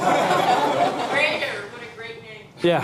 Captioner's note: laughing